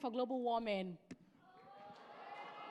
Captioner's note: cheering